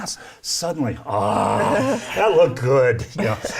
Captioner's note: laughs